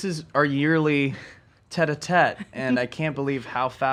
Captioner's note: laughs